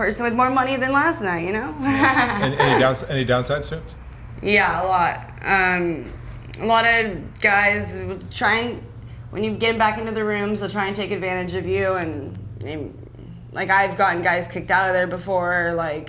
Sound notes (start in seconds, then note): 1.8 laughs